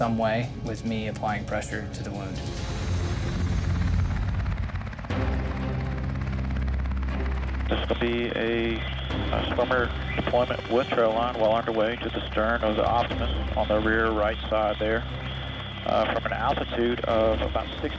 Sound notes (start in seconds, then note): 5.0 intense music; 7.7 helicopter whir